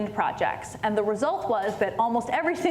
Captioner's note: none